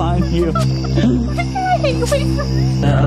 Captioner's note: laughs